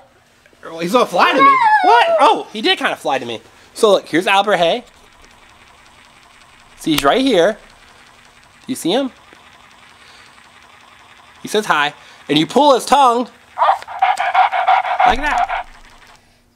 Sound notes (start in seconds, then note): 13.6 panting